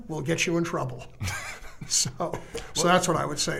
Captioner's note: chuckling